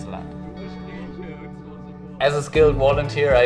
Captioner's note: people chatting